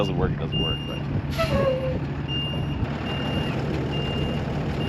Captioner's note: truck beeps